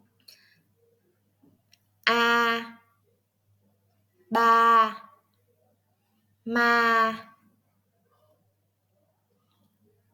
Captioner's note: Vietnamese